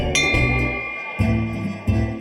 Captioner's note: bell dings